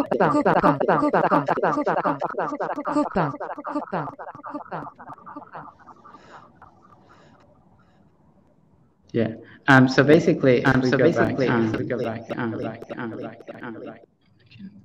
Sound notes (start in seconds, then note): 4.4 speaking French; 13.7 echo